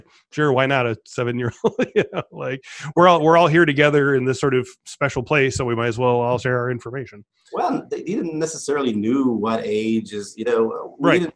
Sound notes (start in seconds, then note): 1.5 laughs